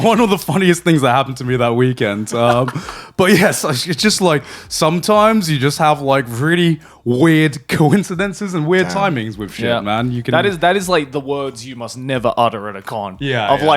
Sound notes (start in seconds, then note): 2.4 laughing